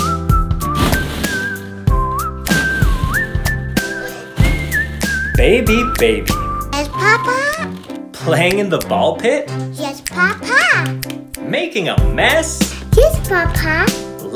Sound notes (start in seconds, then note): 0.6 crash; 4.3 crash